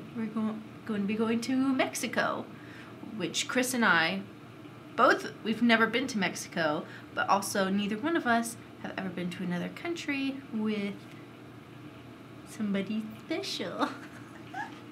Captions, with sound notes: We're going to be going to Mexico which Chris and I both we've never been to Mexico, but also neither one of us have ever been to another country with... somebody special. (Giggles)